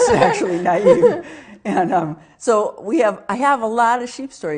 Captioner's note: both laughing